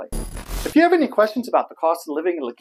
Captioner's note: static